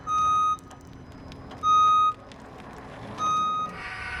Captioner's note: machine beeping